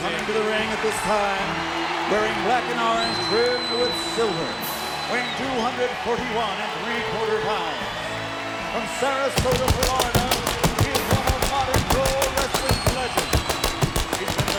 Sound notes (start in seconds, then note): 9.4 pyro exploding